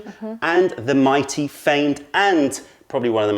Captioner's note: none